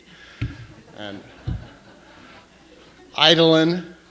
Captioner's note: laughter